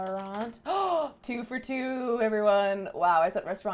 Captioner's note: gasp